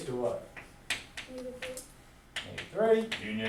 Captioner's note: voiceover